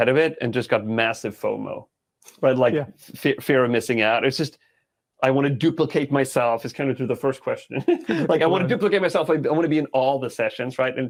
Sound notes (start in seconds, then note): 7.6 laughing